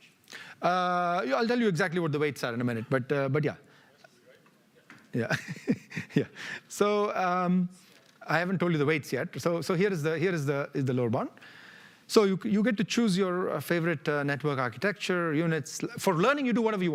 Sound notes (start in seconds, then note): 5.2 laughs